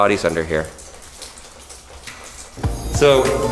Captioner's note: water pattering